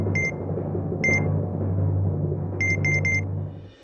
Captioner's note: scale beeps